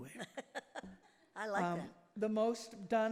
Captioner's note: laughs